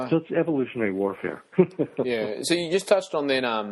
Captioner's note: laughs